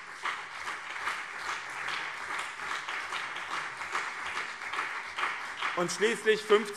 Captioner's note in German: Beifall BÜNDNIS 90/DIE GRÜNEN und CDU